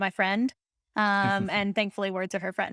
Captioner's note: laughing